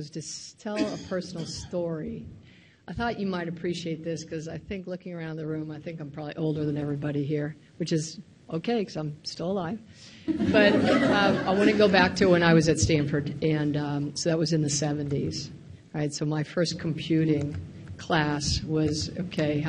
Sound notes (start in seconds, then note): 10.3 laughs